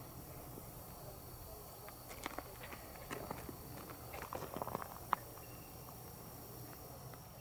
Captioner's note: katydids forest sounds